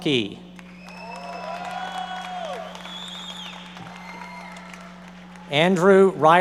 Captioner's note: audience members cheering and applauding